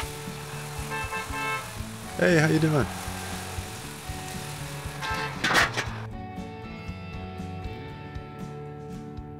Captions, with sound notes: (car honking) Hey, how you doing? (upbeat music)